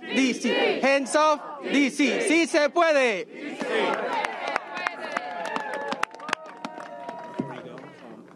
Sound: speaking spanish; applause

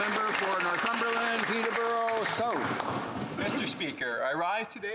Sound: applause

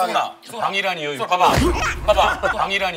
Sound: bang!

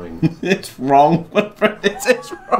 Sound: chuckles

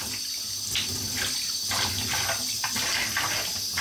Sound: water running

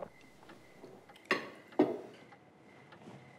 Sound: glass landing on table

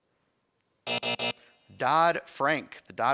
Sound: time buzzer

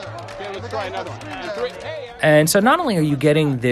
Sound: chatter

